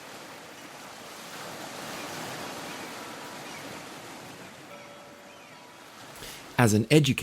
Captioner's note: waves crashing